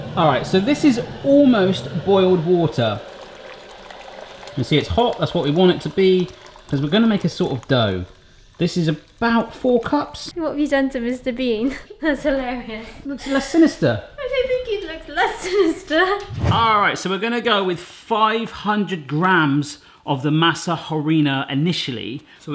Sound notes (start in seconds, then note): 3.1 water splashing; 14.3 laughing